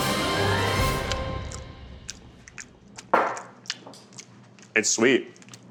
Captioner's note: smacking lips